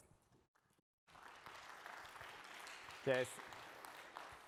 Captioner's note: applause